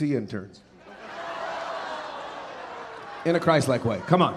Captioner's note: audience laughing